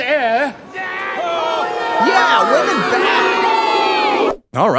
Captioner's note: crowd jeers